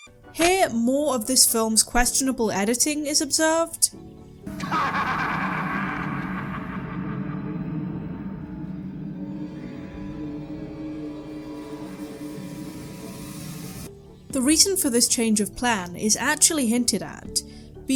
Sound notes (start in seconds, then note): 4.4 manical laughter